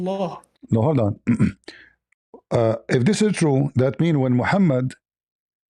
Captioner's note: clears throat